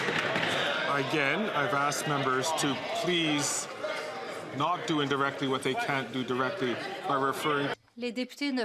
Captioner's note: some Applause